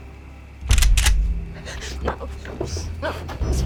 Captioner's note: shotgun clicks